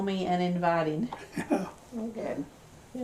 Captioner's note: laughs